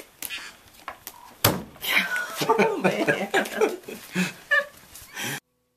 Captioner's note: laughter